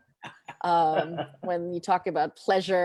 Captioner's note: laughs